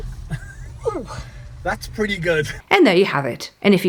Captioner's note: oof